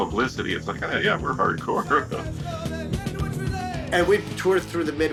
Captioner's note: laughs